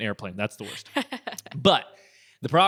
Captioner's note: laughter